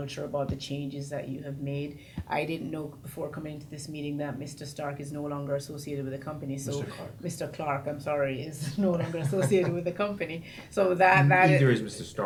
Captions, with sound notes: about the changes that you have made. I didn't know before coming to this meeting that Mr. Stark is no longer associated with the company. - Mr. Clark. - Mr. Clark, I'm sorry (laughs) is no longer associated with the company, so that- - Neither is Mr. Stark.